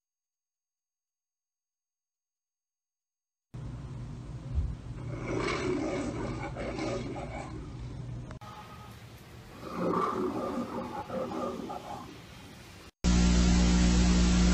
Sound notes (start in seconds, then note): 5.0 Leo the Lion roaring on television; 9.5 Leo the Lion roaring on TV